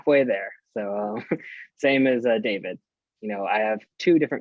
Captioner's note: chuckles